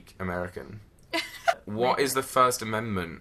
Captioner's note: laughs